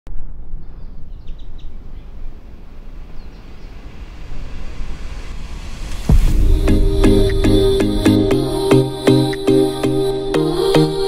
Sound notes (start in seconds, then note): 0.6 birds chirping; 6.1 invigorating music